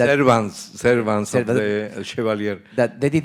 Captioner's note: speaking in Spanish